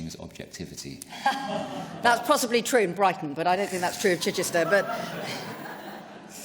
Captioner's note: laughter